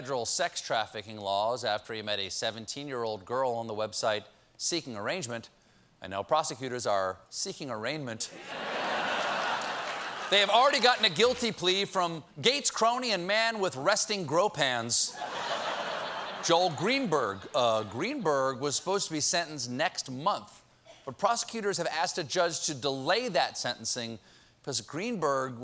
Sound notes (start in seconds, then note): 8.3 laughter